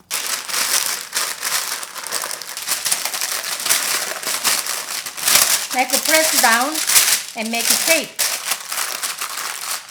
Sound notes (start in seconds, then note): 0.7 paper rustling